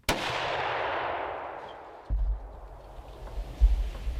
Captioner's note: gunshot